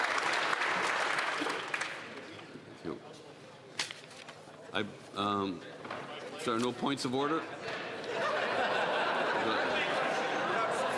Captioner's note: applause